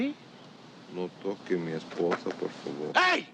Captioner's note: speaking spanish